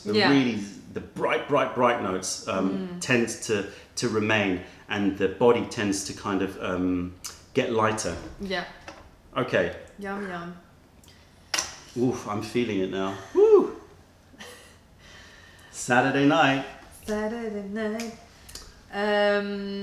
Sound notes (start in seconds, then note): 11.3 sips tea; 17.8 singing